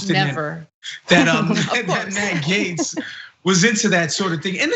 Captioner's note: laugh